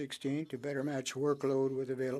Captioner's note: speaking French